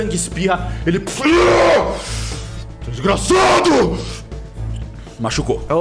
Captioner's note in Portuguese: rugido de dor